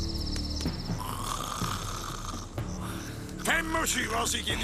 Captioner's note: snores